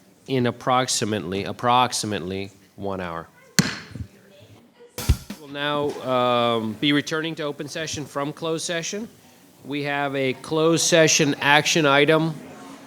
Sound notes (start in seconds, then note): 3.6 gavel bangs